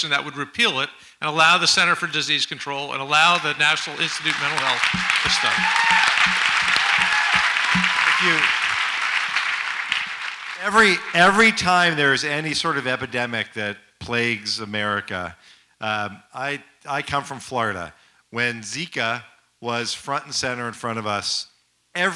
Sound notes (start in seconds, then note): 6.4 audience applauds and cheers